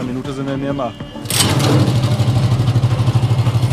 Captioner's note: engine starts